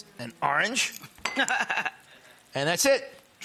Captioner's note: laughing